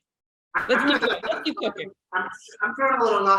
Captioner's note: laughter